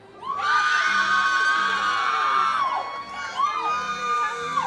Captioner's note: audience cheers